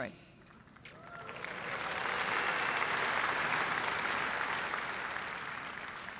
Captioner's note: applause